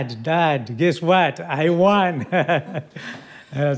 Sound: laughs

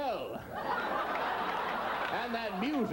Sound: audience continues laughing

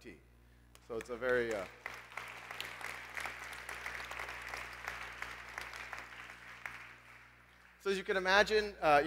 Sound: applause

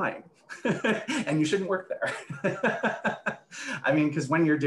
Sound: laughs

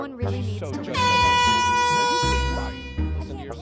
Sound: blows airhorn

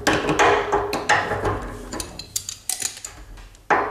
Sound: metal banging

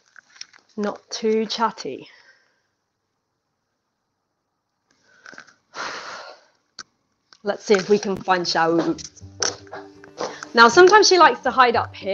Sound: sighs

